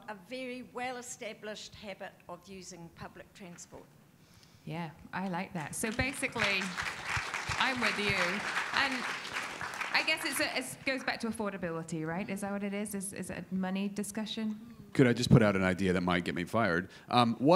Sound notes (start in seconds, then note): 8.1 audience applauding